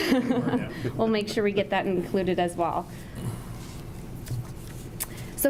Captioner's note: laughs